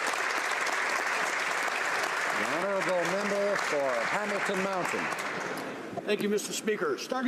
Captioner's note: applause